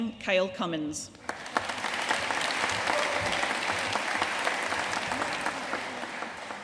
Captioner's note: audience cheering and applauding